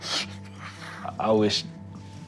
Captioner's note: sniffles